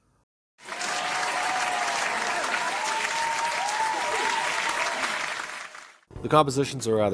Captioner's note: SFX: Roaring Applause